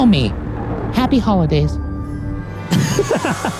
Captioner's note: laughs